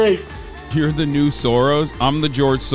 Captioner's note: chatter